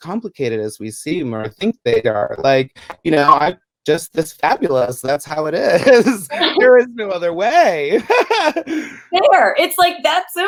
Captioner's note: laughs